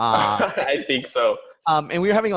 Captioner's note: laughs